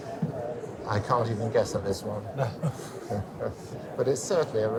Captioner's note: laughs